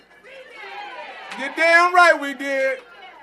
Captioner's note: applause